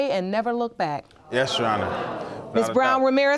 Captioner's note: audience gasping